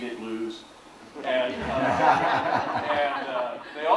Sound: audience laughs

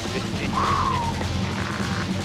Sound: engine running

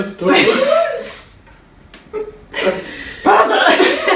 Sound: laughs

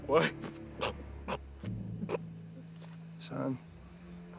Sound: grunting

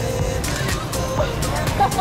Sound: upbeat music; camera shutters; laughs

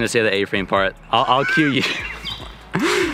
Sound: laughing

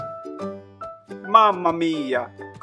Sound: 🇮🇹 speaking Italian

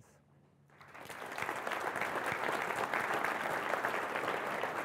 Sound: applause

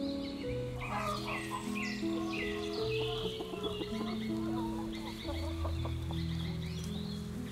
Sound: chickens squawk outside

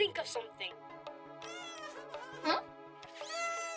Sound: Bongolulu sobbing

